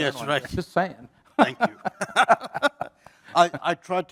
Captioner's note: laugh